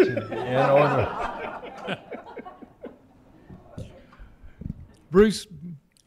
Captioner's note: laughter